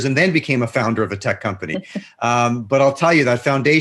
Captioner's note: laughs